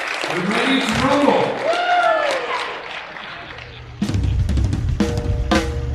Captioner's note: attendees applauding; attendees cheering; country music